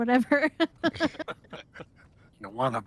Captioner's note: laughs